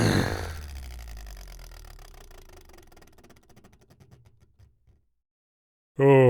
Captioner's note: grunt, fart; machine powering down